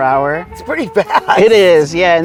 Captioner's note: chuckling